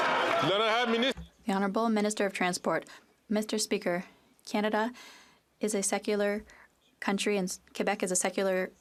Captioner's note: some Applause